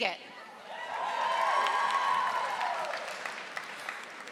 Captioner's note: audience applauding